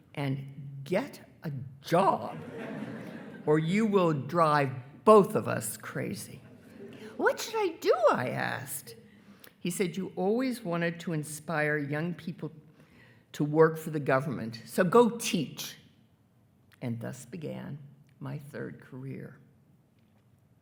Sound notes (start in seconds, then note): 2.3 attendees laughing